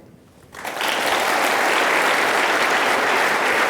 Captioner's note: applause